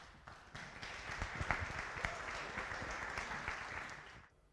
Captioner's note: audience applause